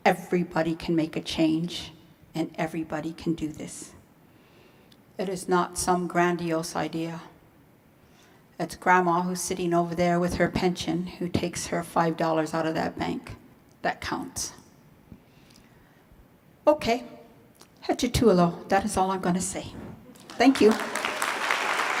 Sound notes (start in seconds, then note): 17.0 speaking in foreign language; 21.8 applause